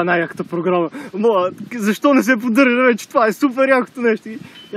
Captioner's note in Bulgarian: с друг глас